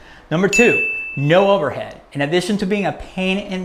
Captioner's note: bell